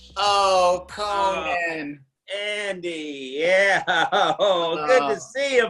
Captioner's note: laughs